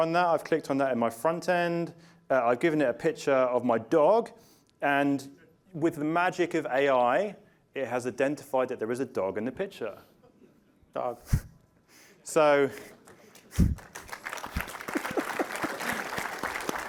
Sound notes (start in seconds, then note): 11.3 applause